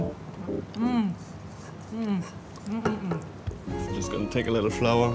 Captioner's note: groaning in delight